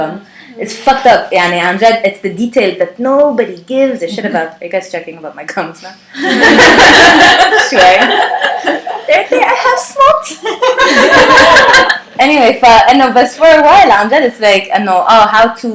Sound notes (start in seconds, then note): 6.2 laughter